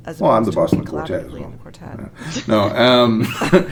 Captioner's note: laughing from the quartet